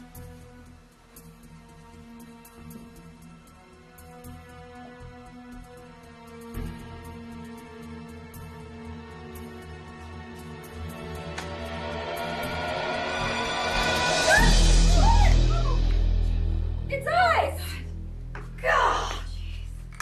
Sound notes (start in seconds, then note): 0.3 suspenseful instrumental playing; 14.1 screaming